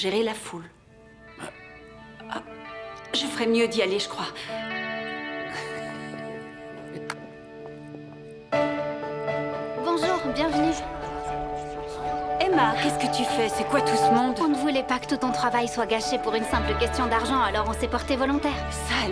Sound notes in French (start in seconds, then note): 5.5 Peter glousse